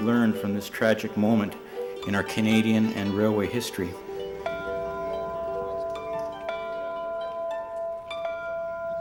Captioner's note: bell rings